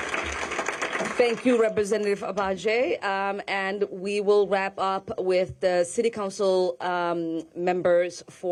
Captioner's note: applause